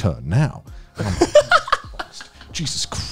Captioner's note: laughing